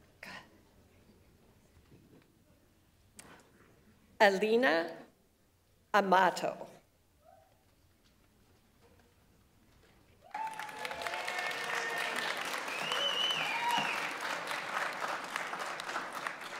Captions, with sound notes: Elena Amato. (audience applauds) (audience members cheer)